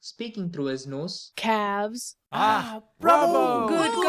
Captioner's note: advancing, speaking through his nose